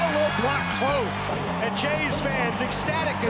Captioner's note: crowd cheering wildly